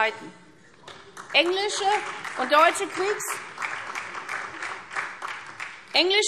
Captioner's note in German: Beifall SPD